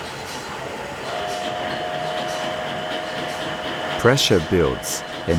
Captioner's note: machine whistling and chugging